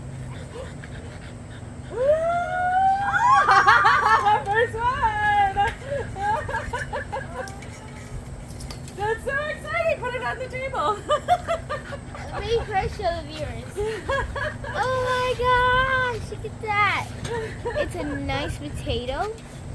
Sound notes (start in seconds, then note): 2.6 lots of cheering